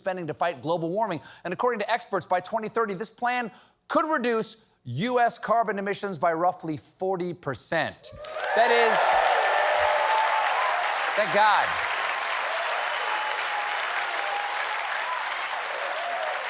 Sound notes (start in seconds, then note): 7.0 cheers and applause